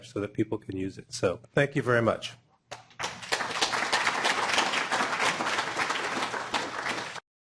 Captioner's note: applause